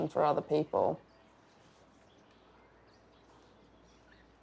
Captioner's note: birds chirping